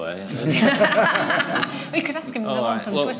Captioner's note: laughter